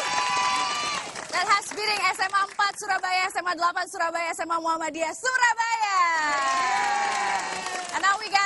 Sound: applause; speaking indonesian

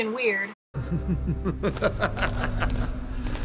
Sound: maniacal laugh

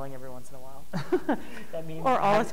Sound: laughing

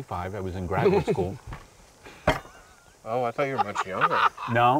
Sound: laughing

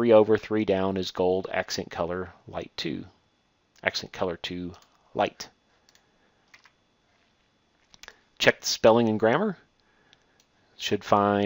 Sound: click

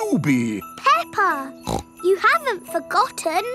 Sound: snorts

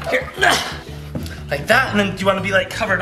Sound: dad grunts

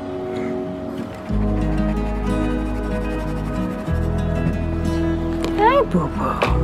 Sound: light guitar music; pencil scraping on paper

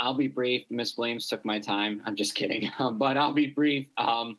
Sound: laughs

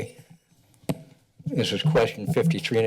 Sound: pause

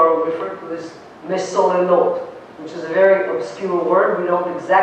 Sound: non-english

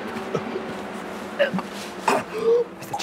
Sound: coughing

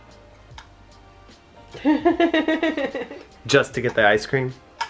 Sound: laughs

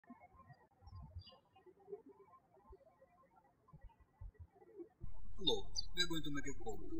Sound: birds chirping

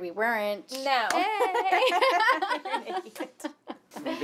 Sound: laughter

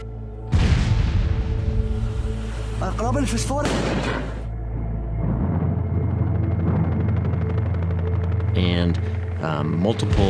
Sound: explosion

